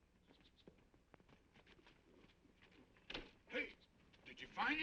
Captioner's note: horse hooves clopping